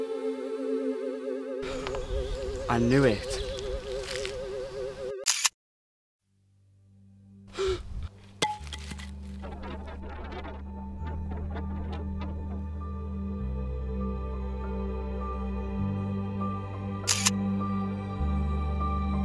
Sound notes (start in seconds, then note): 0.0 UFO Sound; 9.2 alien gibberish; 17.0 camera click; 17.9 hopeful Music